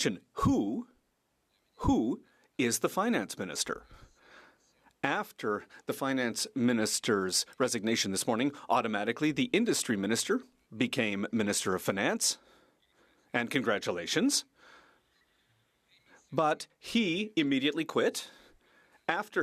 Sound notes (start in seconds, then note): 2.0 speaking French